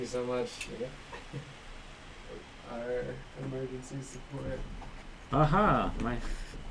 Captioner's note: laughs